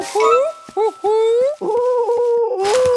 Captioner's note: cooing